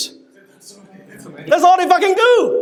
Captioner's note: crowd